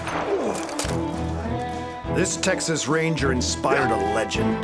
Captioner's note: gunshot, bottle shatters